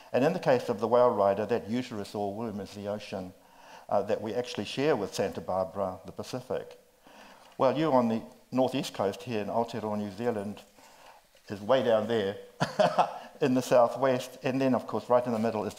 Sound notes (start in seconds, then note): 12.6 laughs